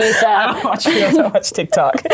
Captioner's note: laughs